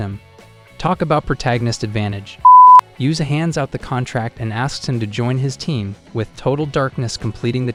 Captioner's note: beep